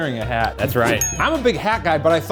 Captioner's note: magical chiming